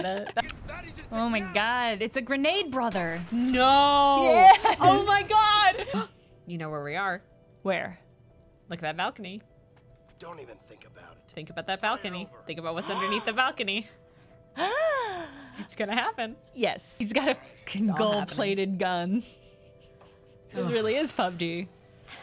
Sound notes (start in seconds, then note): 13.7 happy gasp